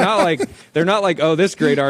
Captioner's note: laughs